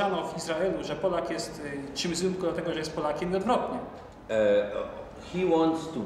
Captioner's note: speaking Polish